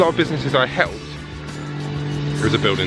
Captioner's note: loud buzzing